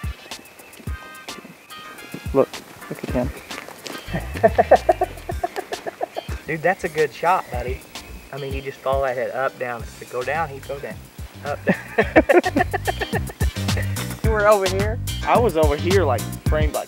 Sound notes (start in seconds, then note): 8.0 laughter